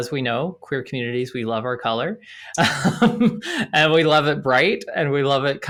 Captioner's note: laughs